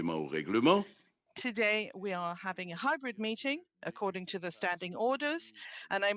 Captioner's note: speaking French